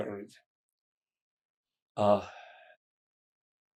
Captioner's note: pauses 6 seconds